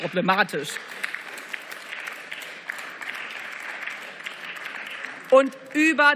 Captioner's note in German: Beifall